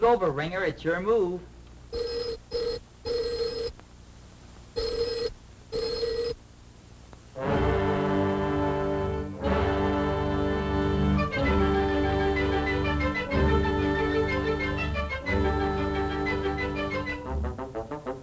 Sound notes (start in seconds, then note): 2.4 loud ringing; 7.9 ominous music